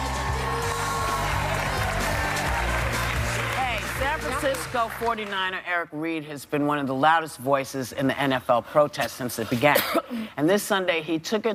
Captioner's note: cheers and applause